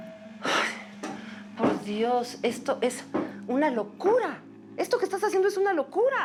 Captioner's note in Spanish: exhala